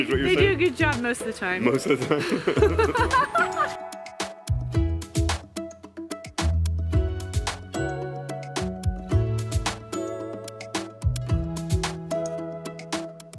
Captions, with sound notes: Is what you're saying? - They do a good job, most of the time. - Most of the time? (laughing) (cheerful music)